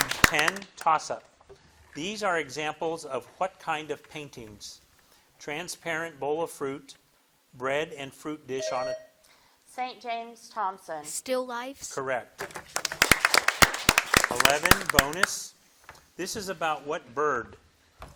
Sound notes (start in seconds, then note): 8.6 bell dings; 12.5 audience applauding